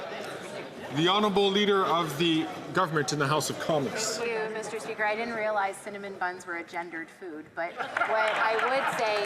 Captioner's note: some Applause